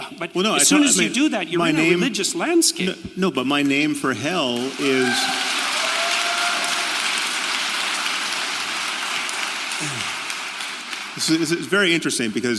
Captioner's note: applaud